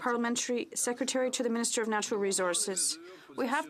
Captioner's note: speaking french